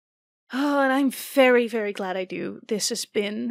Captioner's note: sighing